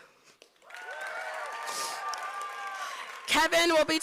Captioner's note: applause